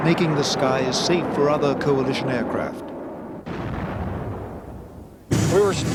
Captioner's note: missile exploding